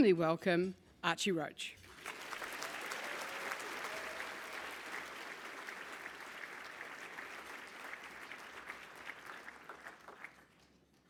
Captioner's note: applause